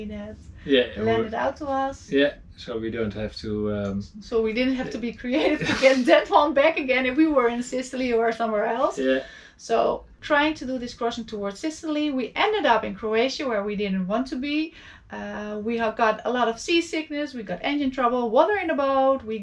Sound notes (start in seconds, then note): 5.2 chuckles